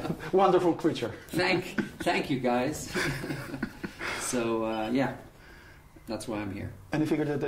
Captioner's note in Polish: śmiech; śmiech